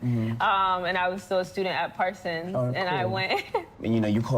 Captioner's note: laughs